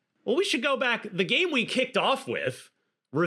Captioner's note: none